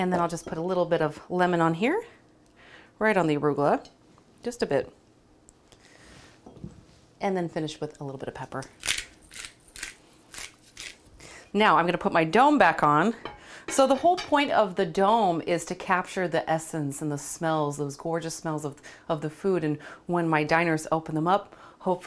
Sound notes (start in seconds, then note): 10.2 pepper mill crackles; 13.7 glass clatters